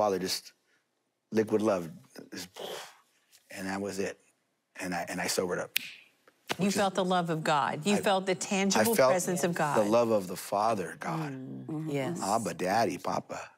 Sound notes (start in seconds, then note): 5.6 snaps fingers